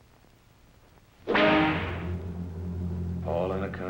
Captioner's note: whip cracks